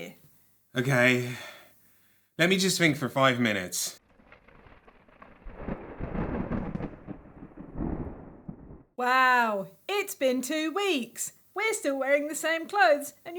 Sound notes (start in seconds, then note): 4.2 thunder and storm sounds